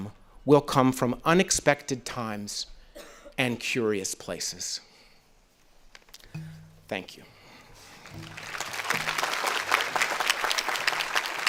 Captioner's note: audience applauding